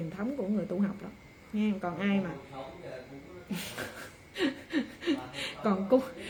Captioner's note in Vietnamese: tiếng cười